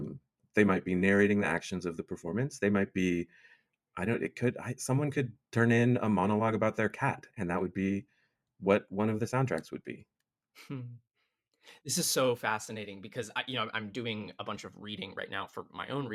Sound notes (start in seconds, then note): 10.6 chuckles